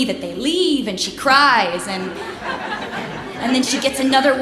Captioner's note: laughs